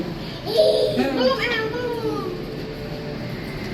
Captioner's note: children Groaning